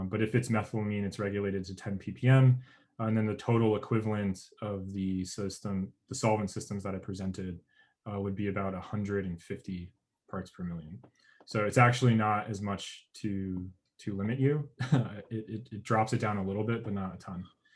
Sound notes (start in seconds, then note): 14.7 chuckles